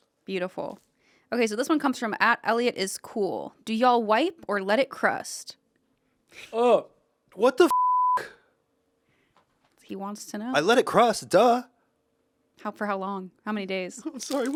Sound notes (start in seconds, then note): 7.7 beep